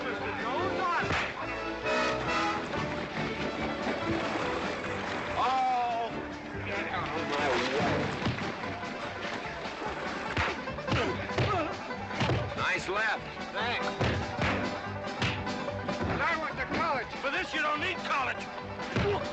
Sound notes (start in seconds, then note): 10.3 all grunting